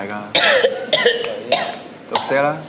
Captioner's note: MONK coughs